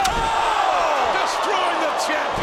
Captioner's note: audience groans